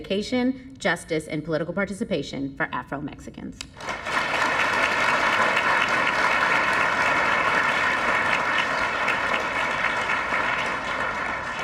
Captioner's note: applause